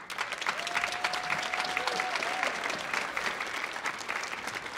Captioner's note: audience applauding